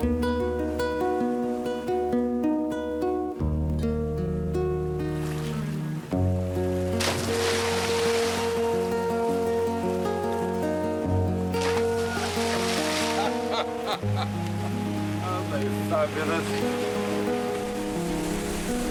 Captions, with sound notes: (water splashing) - (laughing) Aren't they fabulous?